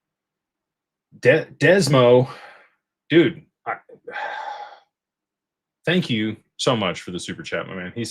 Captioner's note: sighs and gasps